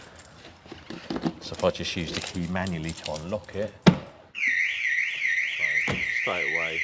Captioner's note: alarm goes off